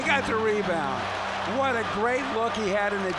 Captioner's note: crowd cheering